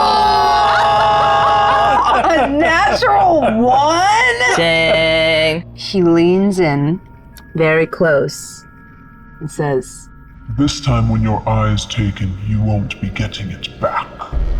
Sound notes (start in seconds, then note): 4.3 players groaning and laughing